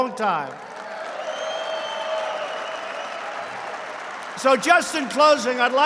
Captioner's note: applause